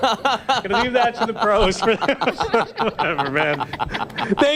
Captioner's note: laughter